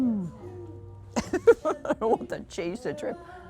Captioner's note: laughing